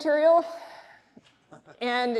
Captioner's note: laughs